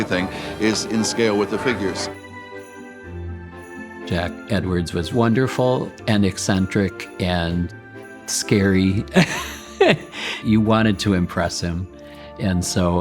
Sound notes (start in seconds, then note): 2.3 bright music; 9.1 laughing